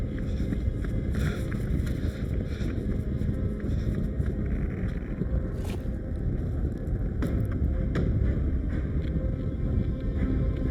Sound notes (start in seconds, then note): 5.3 wind blowing; 7.5 suspenseful music